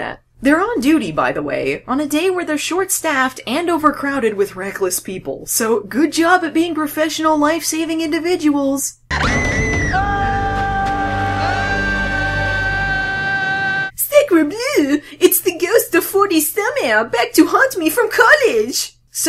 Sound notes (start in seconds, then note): 9.1 CJ screams; 9.1 this guy screams; 11.4 Eyebrows/Matt Brody screams